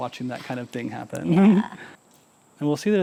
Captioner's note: chuckling; laughing